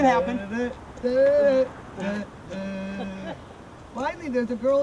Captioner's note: humming